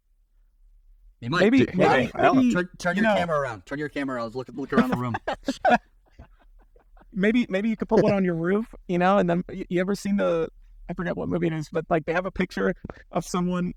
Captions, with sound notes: - He might do, right? - Turn your camera around, turn your camera around, look around the room. (laughing) - Maybe you could put one on your roof, you know, and then you ever seen the, I forgot what movie it is, but like they have a picture of someone